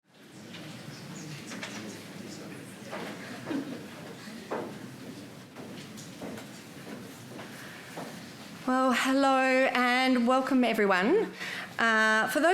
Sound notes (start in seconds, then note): 0.1 attendees chattering